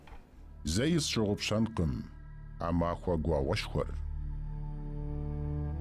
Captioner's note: speaking in a foreign language